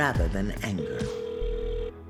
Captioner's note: cellphone rings